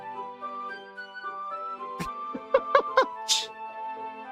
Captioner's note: laughs